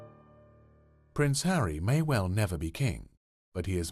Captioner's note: voiceover